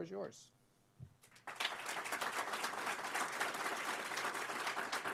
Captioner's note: applause